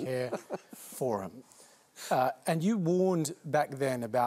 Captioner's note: chuckles